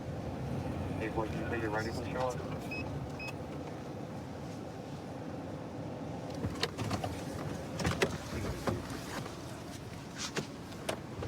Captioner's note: indistinct dispatch speech